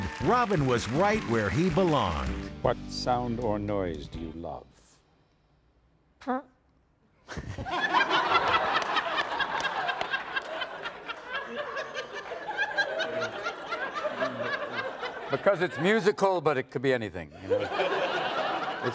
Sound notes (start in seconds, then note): 6.2 tooting noise; 10.0 audience laughing